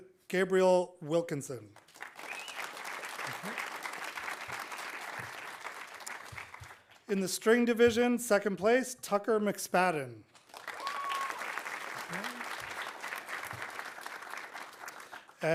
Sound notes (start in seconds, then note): 1.8 audience applauding; 2.2 audience cheering; 10.4 audience applauding; 10.6 audience cheering